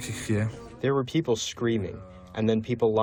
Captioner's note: through translator